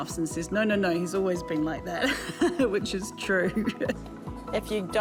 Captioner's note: chuckles